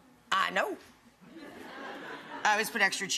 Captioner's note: audience laughs